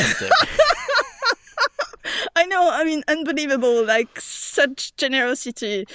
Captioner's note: laughs